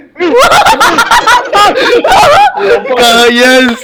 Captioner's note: my goofy laugh